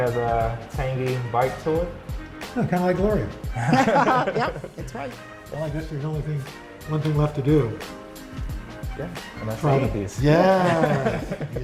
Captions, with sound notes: Has a tangy bite to it. - Kind of like Gloria. (laughter) - Yep! That's right. - One thing left to do. - Gonna eat these. - Yes!